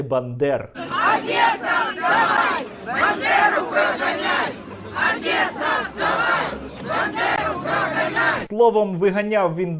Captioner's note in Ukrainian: скандують "Одеса вставай Бандеру виганяй"